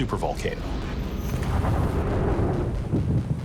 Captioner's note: eruption booming